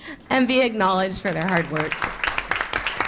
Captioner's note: applause